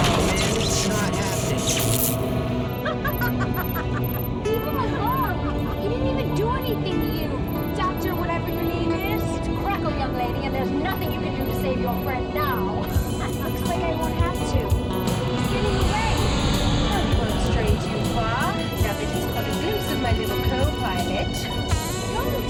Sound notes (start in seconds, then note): 2.6 evil laughing; 13.1 laughs